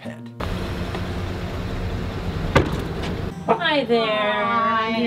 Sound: engine idling

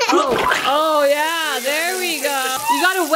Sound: child laughing; egg splatting; food sizzling

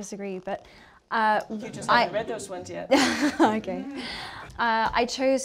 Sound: laughter

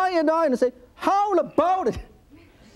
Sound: laughs

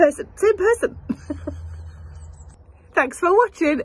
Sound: laughs

